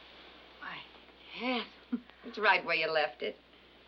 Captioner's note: chuckles